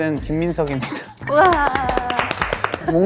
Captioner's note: thunderous applause